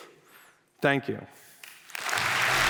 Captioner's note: applause